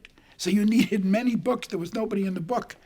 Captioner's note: chuckling